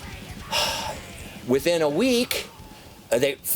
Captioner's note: breathes heavily